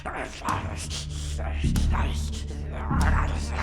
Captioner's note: zombie snarling